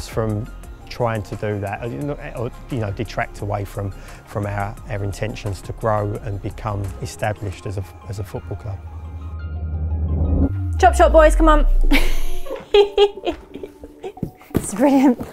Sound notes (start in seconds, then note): 11.9 laughs